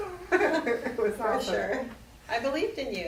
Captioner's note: laughter